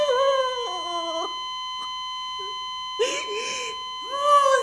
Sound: heart Monitor Failure alarm; crying loudly

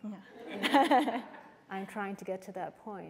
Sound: laughter

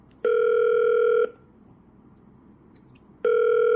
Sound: phone ringing

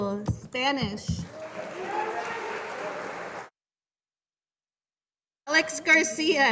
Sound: audience applauding

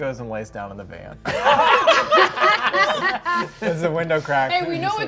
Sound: all laughing

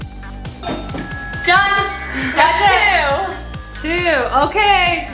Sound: timer rings

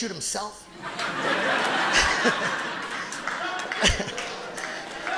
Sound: audience laughing

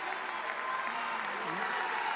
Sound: cheers and applause

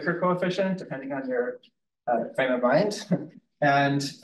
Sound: chuckles

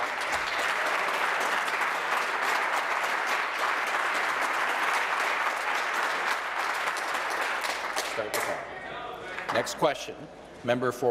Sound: applause

